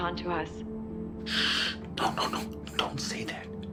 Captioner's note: Kent shushing